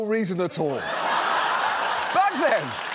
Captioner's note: laughter